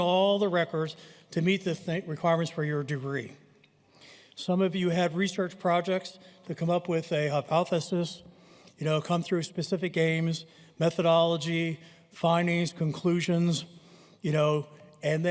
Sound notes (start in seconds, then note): none